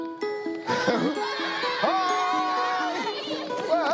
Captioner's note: laughter